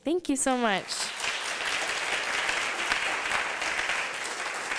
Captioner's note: applause